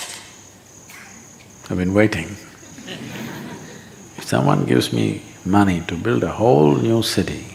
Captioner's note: few laugh